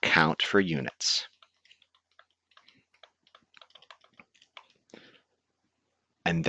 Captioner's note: typing